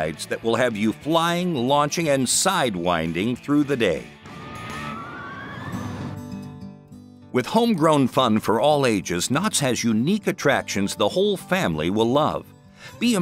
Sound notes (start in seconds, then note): 4.3 people yell; 5.7 gentle music